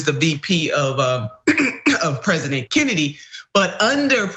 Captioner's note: cough